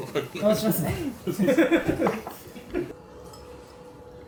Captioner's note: laughs